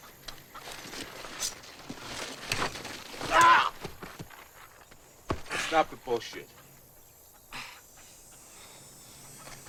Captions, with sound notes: (Latrell cries out) - Stop the bullshit.